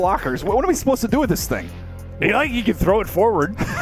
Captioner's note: laughs